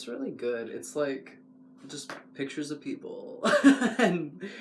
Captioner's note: laugh